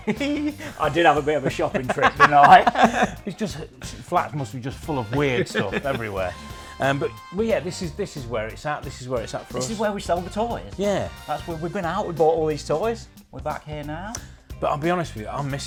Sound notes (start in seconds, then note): 0.0 chuckles